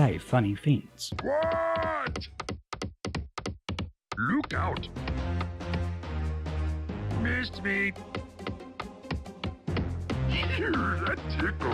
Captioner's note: grunt